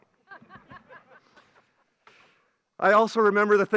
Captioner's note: graduates laugh